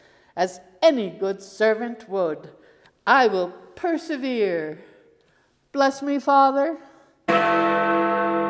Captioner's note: bell rings